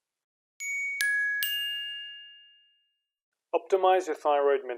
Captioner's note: bells ringing